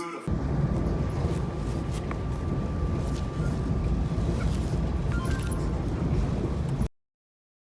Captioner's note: train moving